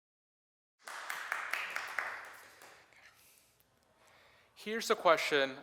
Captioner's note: applause